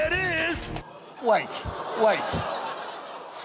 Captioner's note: audience laughing